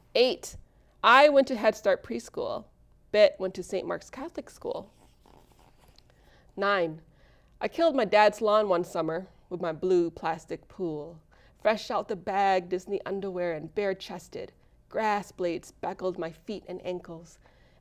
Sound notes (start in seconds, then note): none